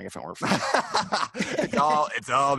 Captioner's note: laughs